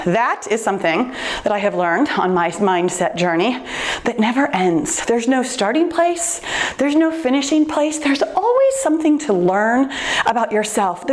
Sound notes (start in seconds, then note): none